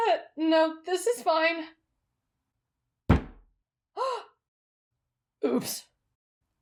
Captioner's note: bonk